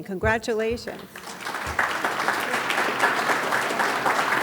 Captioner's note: audience claps